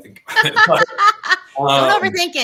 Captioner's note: laughter